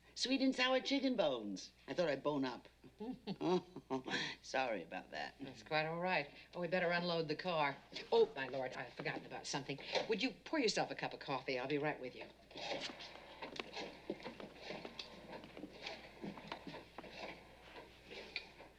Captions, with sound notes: What, may I ask, is tSweet and sour chicken bones. I thought I'd bone up.t. [ Chuckling ] [ Laughing ] Sorry about that. That's quite all right. Well, we'd better unload the car. Oh, my Lord, I've forgotten about something. Would you pour yourself a cup of coffee? I'll be right with you. [ Dialing ]